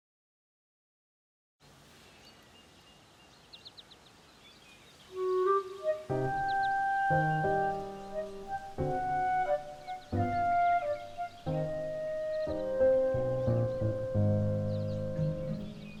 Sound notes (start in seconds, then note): 1.7 birds chirping; 5.2 playful orchestral music